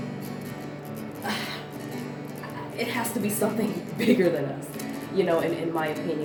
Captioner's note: sighs